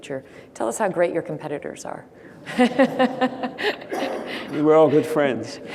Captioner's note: laughs